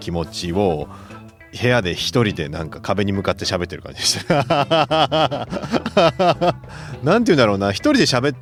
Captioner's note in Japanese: 笑い